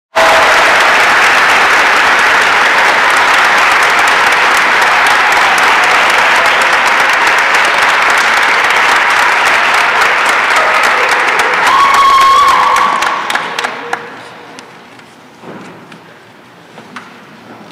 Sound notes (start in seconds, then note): 6.3 applause and cheering